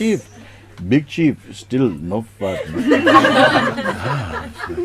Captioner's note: laughter